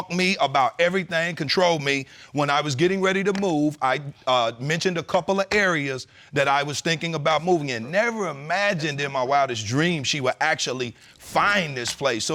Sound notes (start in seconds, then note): none